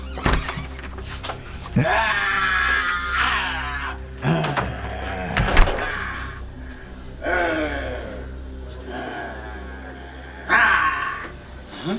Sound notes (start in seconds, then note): 0.2 door opening; 3.1 screaming out loud